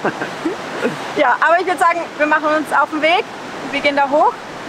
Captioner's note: laughs